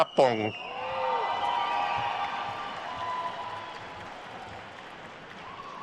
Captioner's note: attendees cheering and applauding